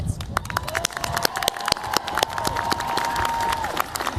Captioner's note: cheers, applause